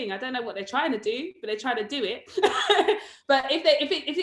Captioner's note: laughs